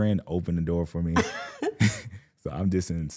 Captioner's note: laughing